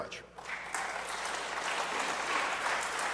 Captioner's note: applause